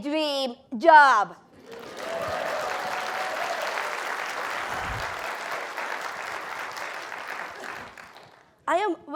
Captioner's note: applause